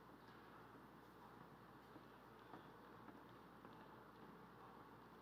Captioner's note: none